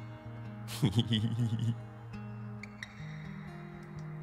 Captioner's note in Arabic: يضحك